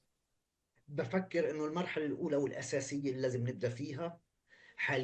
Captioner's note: speaking arabic